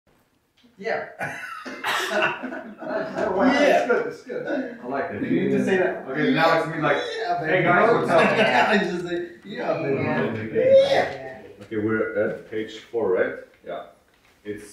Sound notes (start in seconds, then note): 1.1 players chattering and laughing